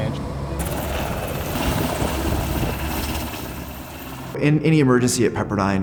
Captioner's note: helicopter engine, spraying water